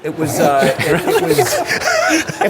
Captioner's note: laughter